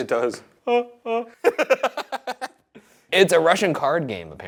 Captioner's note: Shane and Ryan laughing